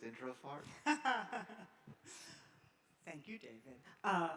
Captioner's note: laughing